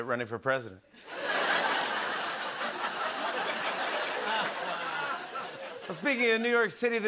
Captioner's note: laughter